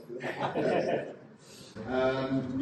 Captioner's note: laughing